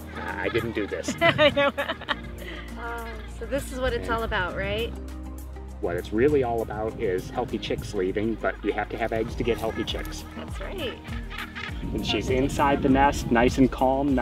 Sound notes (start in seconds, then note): 2.1 laughter